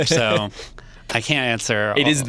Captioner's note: laughs